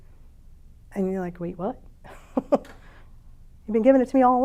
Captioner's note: chuckles